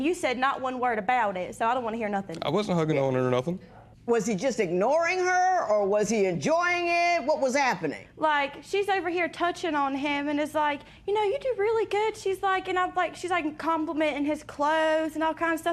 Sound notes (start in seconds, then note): none